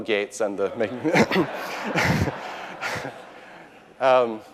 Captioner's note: audience laughing